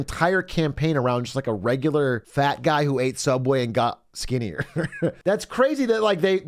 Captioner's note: laughs